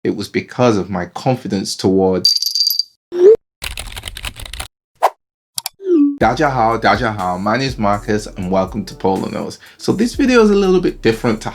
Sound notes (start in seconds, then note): 2.4 ice clinking; 3.6 typing; 4.7 air whooshing; 5.6 clicking